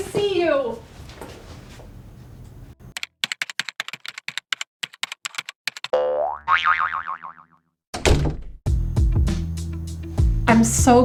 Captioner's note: typing